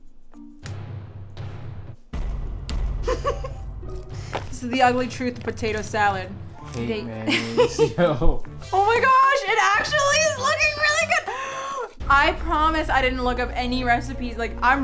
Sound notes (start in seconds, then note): 0.2 dramatic music; 3.0 laughing; 7.2 laughing